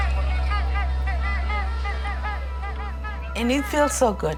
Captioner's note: horns honking